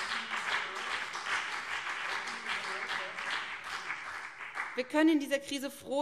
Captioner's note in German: Beifall